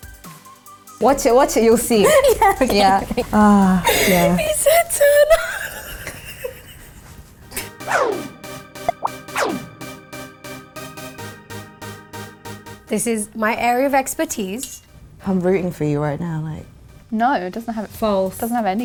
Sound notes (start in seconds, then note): 6.2 laughing; 8.8 techno music